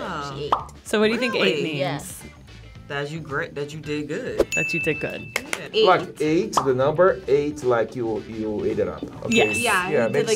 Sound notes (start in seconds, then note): 0.5 bubble pops; 4.5 bell dings; 5.3 claps; 6.6 bubble pops; 9.3 bell dings